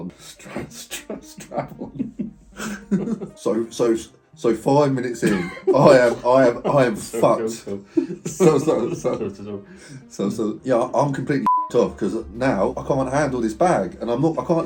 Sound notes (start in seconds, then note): 0.8 both laughing; 5.2 laughs